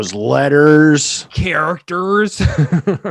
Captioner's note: laughs